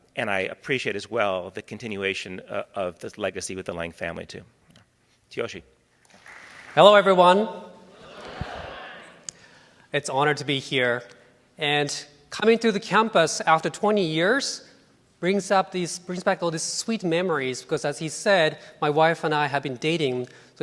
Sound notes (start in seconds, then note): 6.1 applause